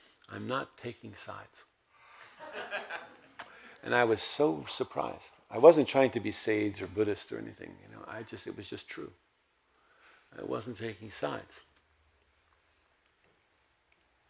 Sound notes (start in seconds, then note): 2.3 audience laughs